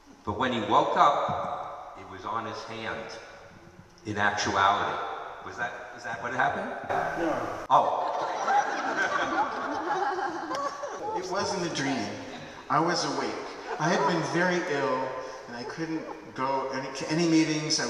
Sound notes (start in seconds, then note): 7.7 laughter